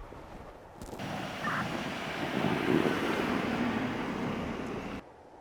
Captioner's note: truck wheels creaking